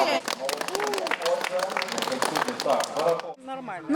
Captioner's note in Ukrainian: хлопають